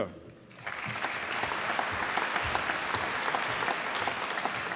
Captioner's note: applause